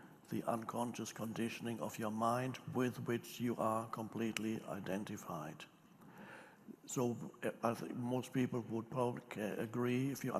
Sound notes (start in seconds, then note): none